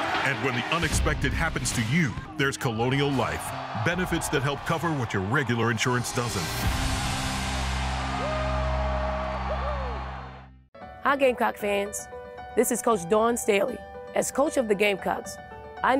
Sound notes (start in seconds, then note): 6.8 upbeat rock music; 8.5 crowd cheering